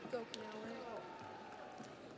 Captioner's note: audience applauds